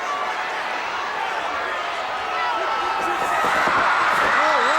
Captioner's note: audience cheering